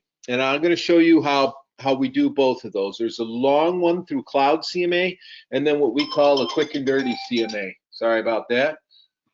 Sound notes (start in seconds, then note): 6.0 device dinging loudly